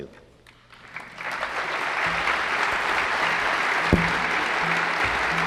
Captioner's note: applause